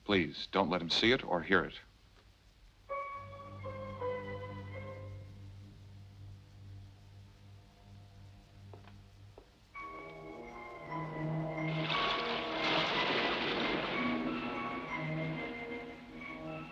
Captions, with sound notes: Please, don't let him see it or hear it. (ominous music) (gentle upbeat music) (waves crashing)